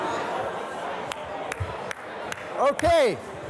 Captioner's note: clapping